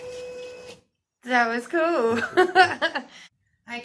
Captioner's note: giggles